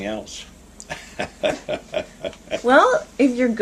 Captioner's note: laughter